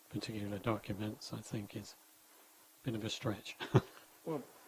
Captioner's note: chuckling